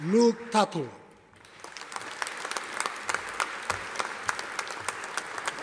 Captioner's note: audience applauding